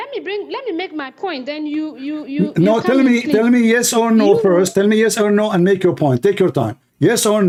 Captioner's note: Ketawa